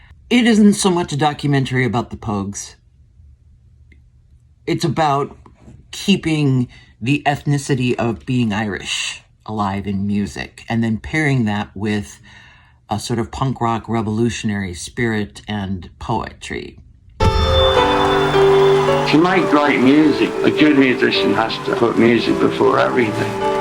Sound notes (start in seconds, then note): 17.2 AUDIO: "Crock of Gold" trailer